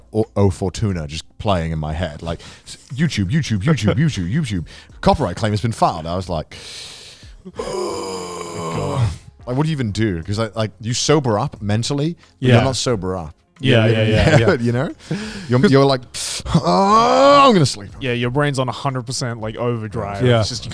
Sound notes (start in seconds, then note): 7.4 sighing heavily